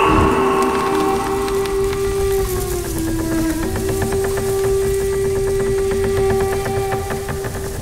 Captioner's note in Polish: zgrzyty, szmery podkreślające napinanie łuku